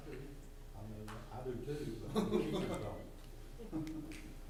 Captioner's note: chatter among board